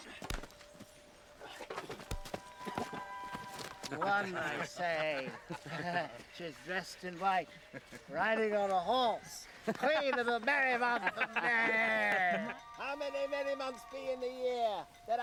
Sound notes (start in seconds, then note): 3.4 men laugh